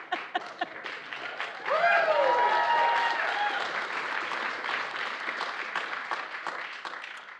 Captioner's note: laughter and applause